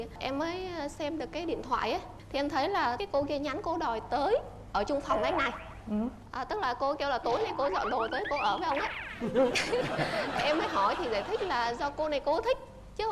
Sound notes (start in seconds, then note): 9.1 laughing